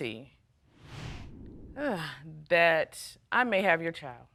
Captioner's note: sighs